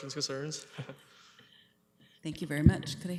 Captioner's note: chuckles